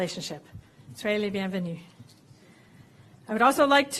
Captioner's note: non-english